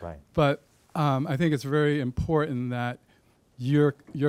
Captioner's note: deep Voice